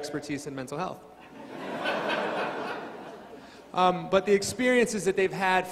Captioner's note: crowd laughing